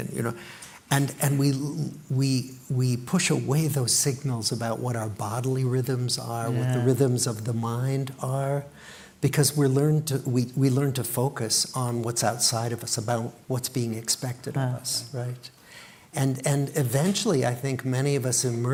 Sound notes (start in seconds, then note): none